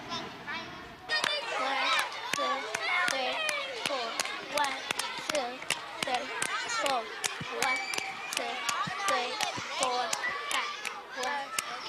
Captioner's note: children playing